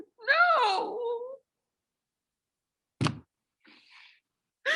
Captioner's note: cries